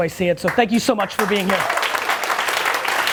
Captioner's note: clapping hands